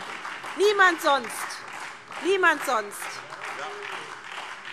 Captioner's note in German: Beifall SPD und vereinzelt Freie Demokraten